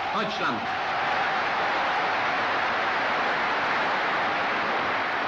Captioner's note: applause